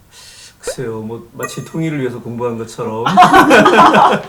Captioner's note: 웃음